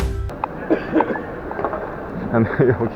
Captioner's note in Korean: 어디선가 들리는 가래 끓는 기침소리